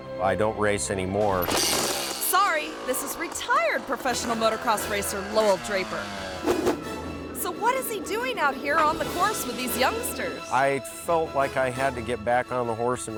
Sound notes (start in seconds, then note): 1.6 engine whirring; 6.4 screen whooshes